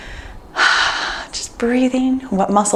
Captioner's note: sighs contentedly